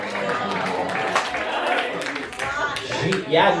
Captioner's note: applause